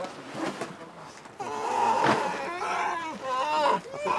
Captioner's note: bear growls